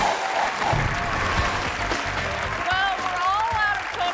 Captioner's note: audience applauding